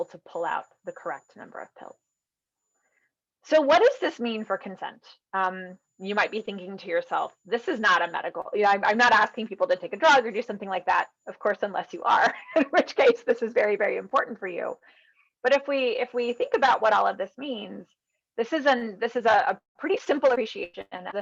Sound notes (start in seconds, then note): 12.3 laughing